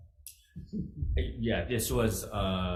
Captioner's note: chuckles